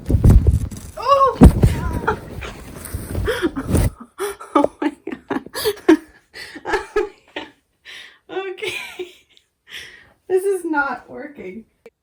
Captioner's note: laughing